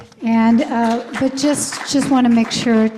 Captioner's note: applause